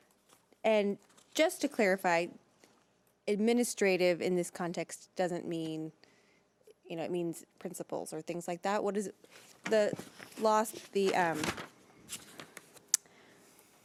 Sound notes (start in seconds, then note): none